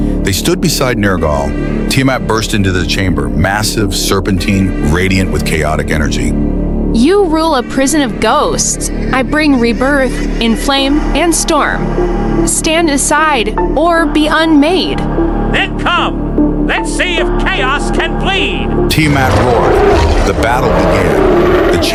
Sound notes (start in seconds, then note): 9.8 hissing; 14.6 darkly amused